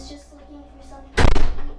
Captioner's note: door slams